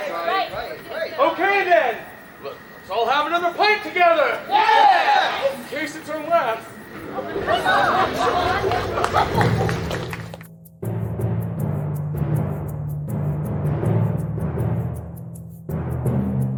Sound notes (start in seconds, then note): 6.8 arguing; 10.6 ominous music